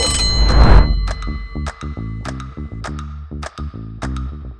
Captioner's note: bell ringing